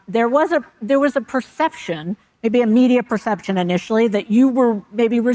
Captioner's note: none